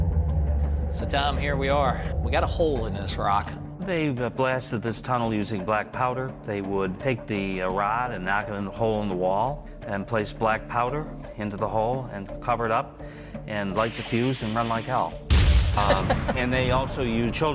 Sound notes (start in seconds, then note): 14.8 bomb blasts; 15.7 laughing